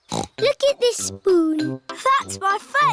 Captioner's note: snorts